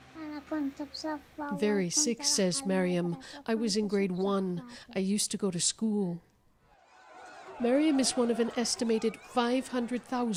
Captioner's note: speaking alternate language